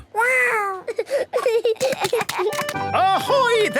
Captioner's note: giggling